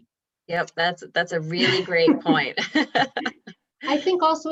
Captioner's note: laughing